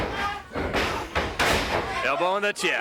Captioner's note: footsteps plodding; blows thudding; body thudding